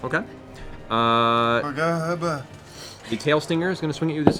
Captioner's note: dazed mumbling